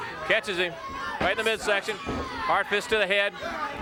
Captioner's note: blows thudding; footsteps plodding